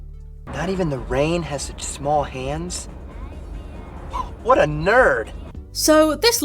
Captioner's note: scoffs